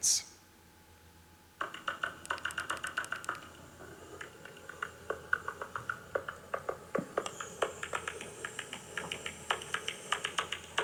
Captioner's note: clicking, chirping noises